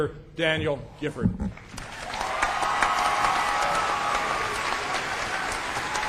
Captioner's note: applause